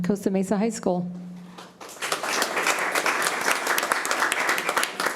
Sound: committee applauding

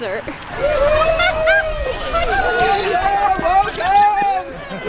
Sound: people cheering

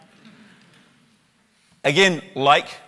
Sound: soft chuckles from audience

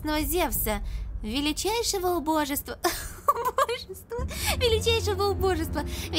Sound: laughter

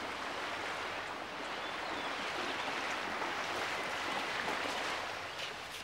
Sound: water splashing

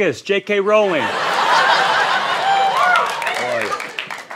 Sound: laughter

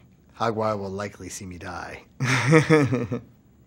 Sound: laughs

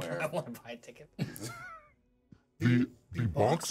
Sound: laughs; speaker laughs

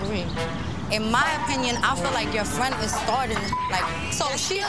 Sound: beep

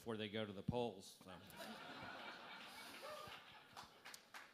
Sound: laughter

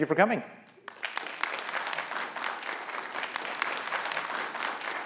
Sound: applause

